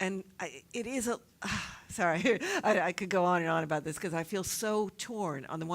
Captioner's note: laugh